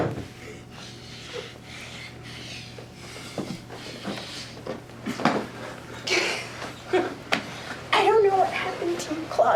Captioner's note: heavy breathing